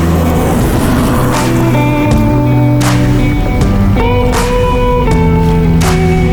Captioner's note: car engine humming; tires scrunching